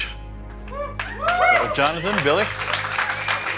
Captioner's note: crowd cheering